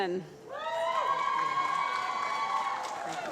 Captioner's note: applause